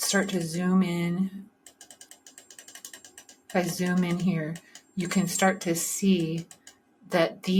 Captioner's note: clicking noises